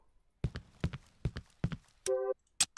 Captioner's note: footsteps